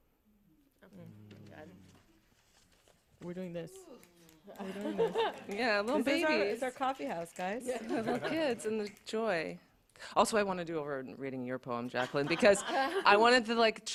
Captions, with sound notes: -Mm. -We're doing this. We're doing this. [laughter] -Yeah. Little babies. -This is our-- it's our coffee house guys. [laughter] -Little kids and the joy. -Also, I want to do over-- reading your poem, Jacqueline, because [laughter] I wanted the like child--